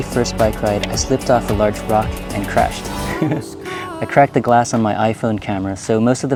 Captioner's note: laughter